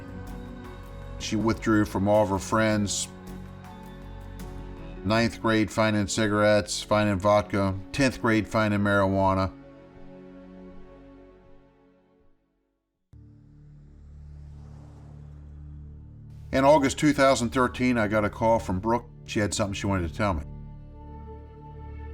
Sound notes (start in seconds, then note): 13.2 car passes